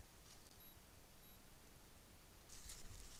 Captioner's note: device beeps x2